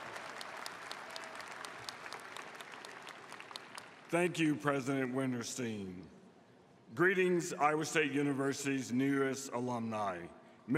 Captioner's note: applause